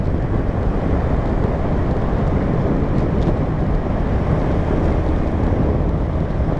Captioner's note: wind noise